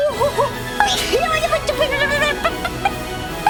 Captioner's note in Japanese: くしゃみ